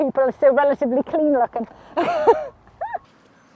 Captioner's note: laughs